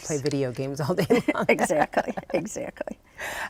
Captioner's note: laughs